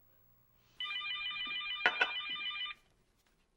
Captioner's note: telephone rings